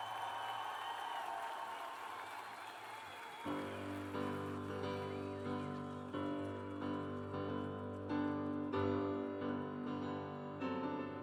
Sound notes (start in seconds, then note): 3.1 cheers and applause